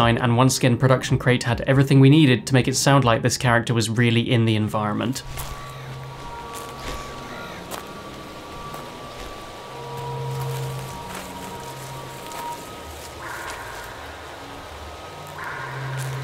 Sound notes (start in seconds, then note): 6.9 birds chirp; 8.1 footsteps patter